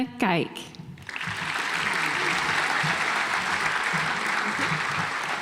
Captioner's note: audience applauds